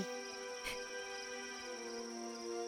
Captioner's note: whimper